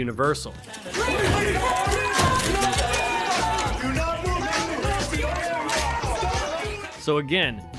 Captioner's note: police officers shouting